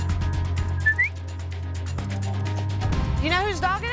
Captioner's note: whistling